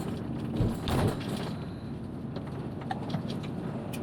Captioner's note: van rattling over bumpy road